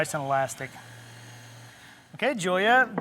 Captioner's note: mixer whirs